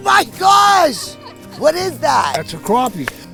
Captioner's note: speaker laughs